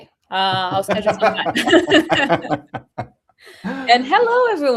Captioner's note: laughter